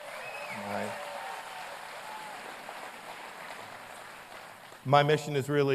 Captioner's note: applause